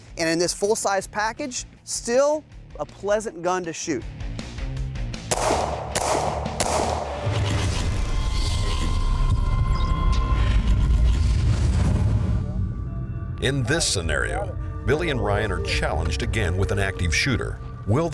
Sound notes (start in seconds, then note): 5.3 gun firing